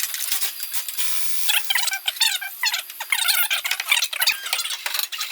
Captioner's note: fast forwarded audio